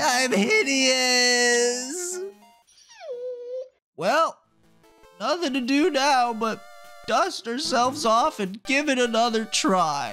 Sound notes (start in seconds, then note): 1.4 whines